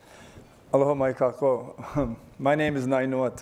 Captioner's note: greeting in foreign language